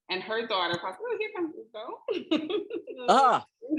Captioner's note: voice muffling; women laughing